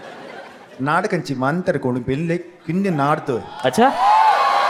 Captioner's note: speaking in Telugu